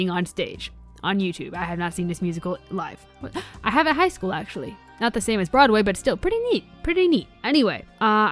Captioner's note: gasp